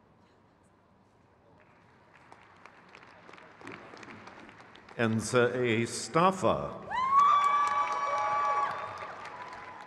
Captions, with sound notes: Angelina S. Antonian. (crowd cheers)